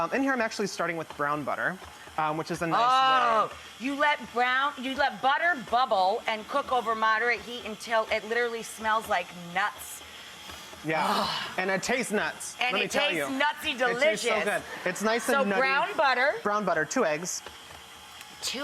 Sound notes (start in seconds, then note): 10.9 sighs; 14.6 audience laughing